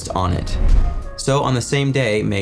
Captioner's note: air whooshing